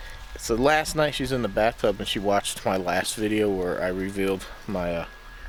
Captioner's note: coffee maker